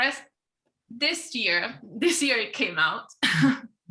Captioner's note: chuckling